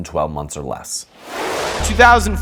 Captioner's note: frame whooshing